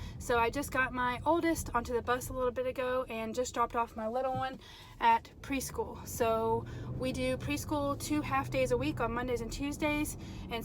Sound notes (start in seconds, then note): none